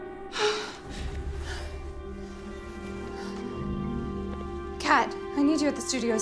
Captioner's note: Jackie pants